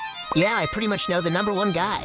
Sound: tense string music; text pings

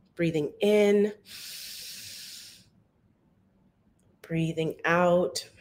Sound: inhales deeply

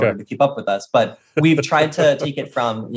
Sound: laughing

